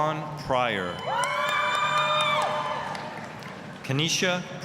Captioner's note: applause, cheering